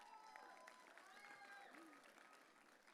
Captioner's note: audience cheering